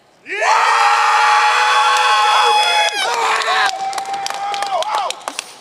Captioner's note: audience cheering and applauding